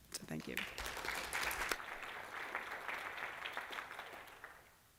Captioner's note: applause